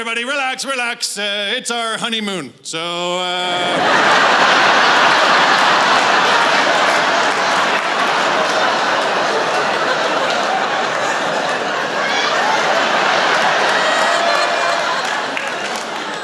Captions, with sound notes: relax, relax. It's our honeymoon. So, uh (Laughter)